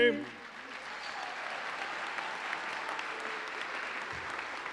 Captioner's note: audience applauding